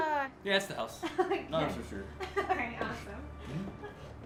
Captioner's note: laughs